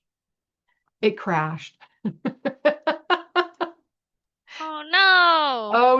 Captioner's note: laughs